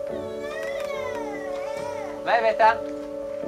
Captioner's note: child cries